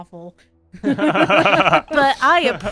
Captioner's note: laughter